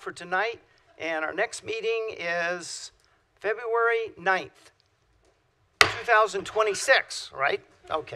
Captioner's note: gavel